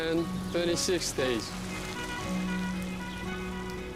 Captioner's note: bus horn honking